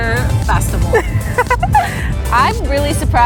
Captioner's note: laughing